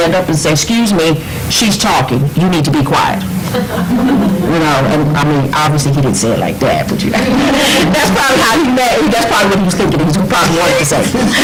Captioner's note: laughter